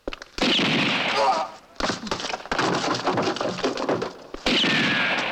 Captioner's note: man grunts